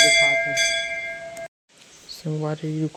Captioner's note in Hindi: घंटी की आवाज़